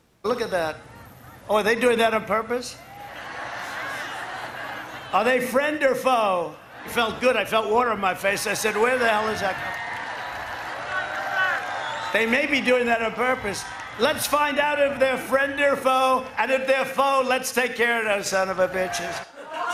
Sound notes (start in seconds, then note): 3.1 crowd cheers; 10.0 cheers and applause